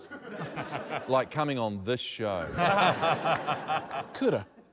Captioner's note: laughter